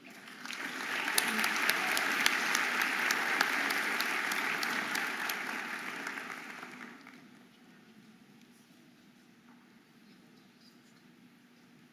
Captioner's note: audience applauding and cheering